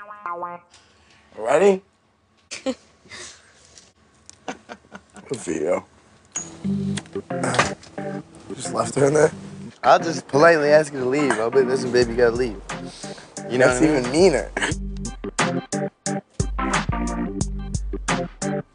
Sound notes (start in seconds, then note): 2.6 laughing; 14.6 fast paced, upbeat music